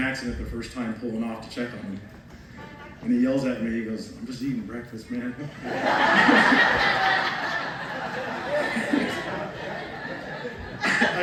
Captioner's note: laughter